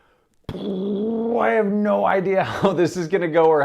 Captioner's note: imitates exploding; laughing